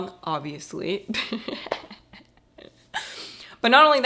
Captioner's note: laughing